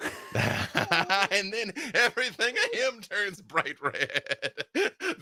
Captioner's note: laughs